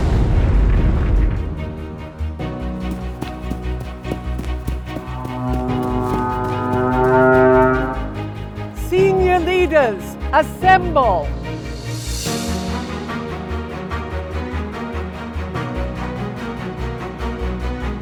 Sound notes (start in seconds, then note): 0.1 feet thumping; 0.1 gentle music; 4.0 horn blasting; 5.3 feet thumping; 11.6 bright music